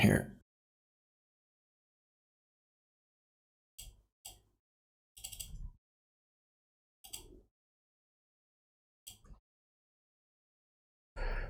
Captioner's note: blank Audio